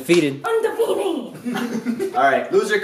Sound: laughter

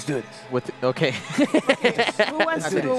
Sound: laughs

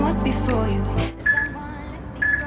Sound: peep

